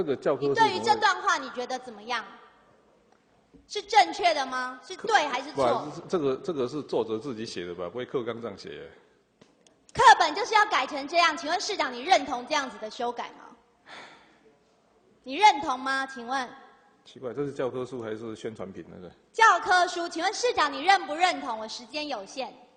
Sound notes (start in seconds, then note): 13.9 sigh